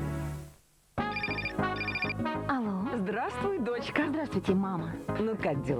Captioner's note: phone ringing